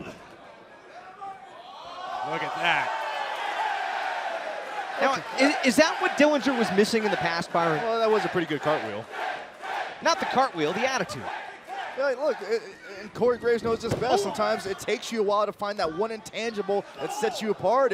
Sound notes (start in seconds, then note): 1.6 crowd chatter; 11.4 crowd cheering